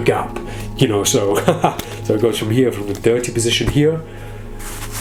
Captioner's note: laughs